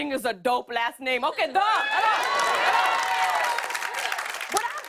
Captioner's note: cheers and applause